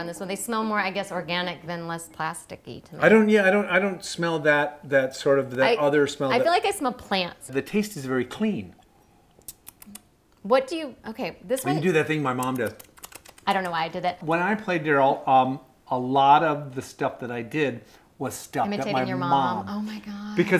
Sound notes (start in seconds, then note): 9.0 smack, smack smack, smack; 12.3 smack, smack, smack, smack